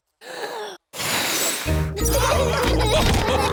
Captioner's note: blows; laughter